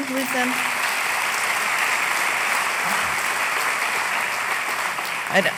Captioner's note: applause